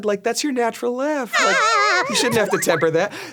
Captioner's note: Ironmouse laughs